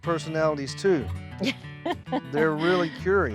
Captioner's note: chuckling